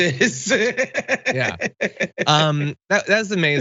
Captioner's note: laugh